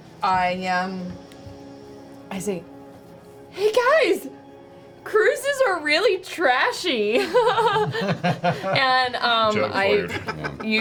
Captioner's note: laughs